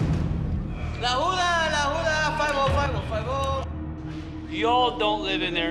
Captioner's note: speaking foreign language